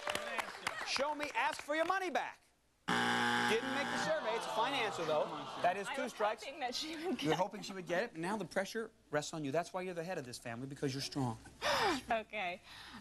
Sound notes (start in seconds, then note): 2.8 buzzer